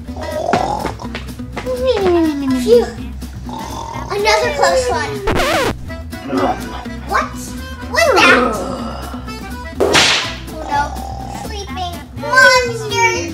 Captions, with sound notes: (monsters snoring) Phew, another close one. (record scratches) What was that? (whip cracks) Oh no, sleeping monsters, no!